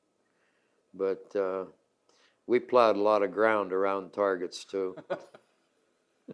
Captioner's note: laughs